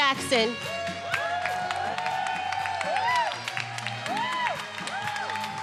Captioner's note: attendees cheering and applauding